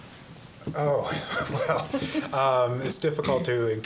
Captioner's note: laughing